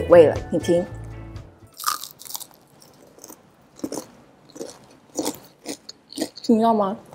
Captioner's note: crunchy sound